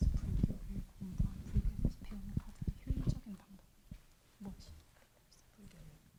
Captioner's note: translator speaking in Korean